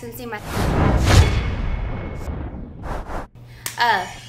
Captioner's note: sound effect